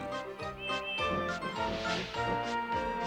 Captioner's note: hooting